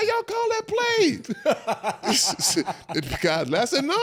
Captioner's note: all laugh